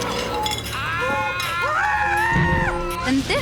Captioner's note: shrieking